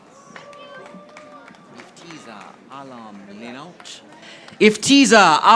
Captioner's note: audience applauding